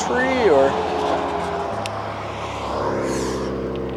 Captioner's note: traffic passes